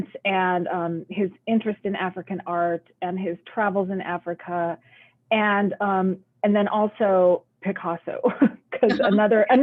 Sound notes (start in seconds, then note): 8.8 laughs